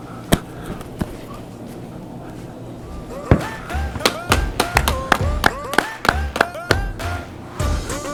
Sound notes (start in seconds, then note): 3.8 clapping